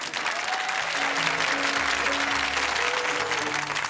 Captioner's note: audience clapping; joyful music